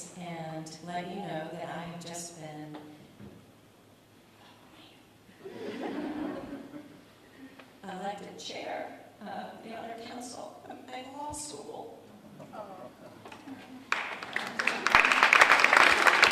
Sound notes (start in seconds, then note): 5.4 audience laughs; 12.2 murmurs, applause